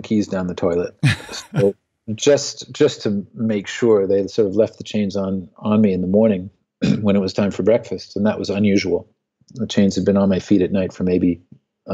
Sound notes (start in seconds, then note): 1.0 laughs